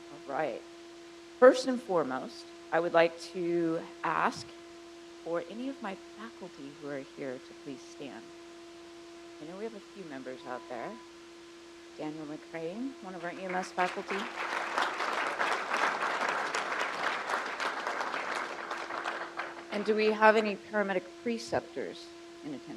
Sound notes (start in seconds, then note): 16.5 crowd applauds